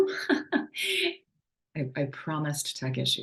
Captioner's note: giggles